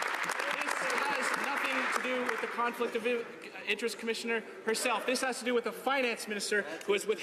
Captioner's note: some Applause